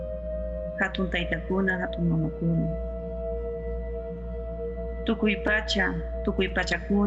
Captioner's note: person speaking in foreign language